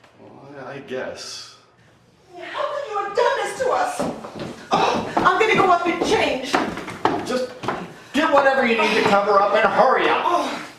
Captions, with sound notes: I'm going to go up and change. - Just get whatever you need to cover up, and hurry up. (stomping) - How could you have done this to us James Holey?